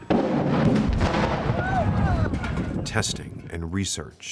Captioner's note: rumbling explosion and shouting